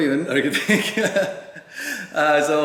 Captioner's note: laughs